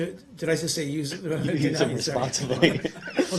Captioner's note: laughter